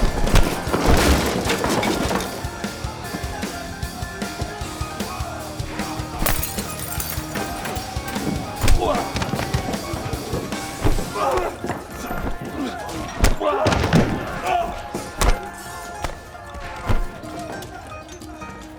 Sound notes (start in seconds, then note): 0.0 loud kick; 6.1 glass shattering; 8.6 loud punch; 13.2 loud punch